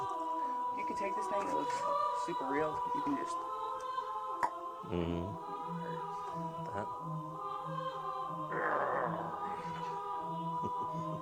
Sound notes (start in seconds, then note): 8.4 groans; 10.6 chuckles